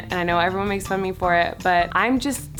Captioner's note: none